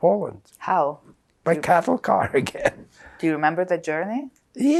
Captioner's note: laughing